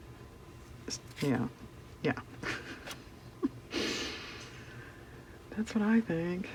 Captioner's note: laughs